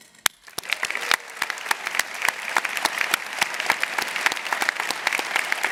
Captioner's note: applause